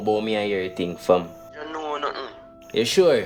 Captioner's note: phone voice